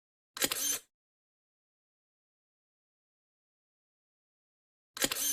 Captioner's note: camera shutter closing